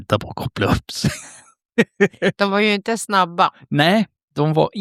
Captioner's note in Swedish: skratt